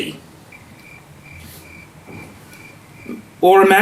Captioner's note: crickets loudly chirping